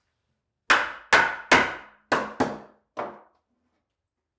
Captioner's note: hammer banging